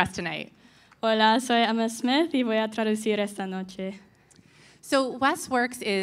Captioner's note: speaking in Spanish